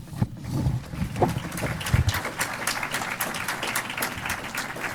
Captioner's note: applause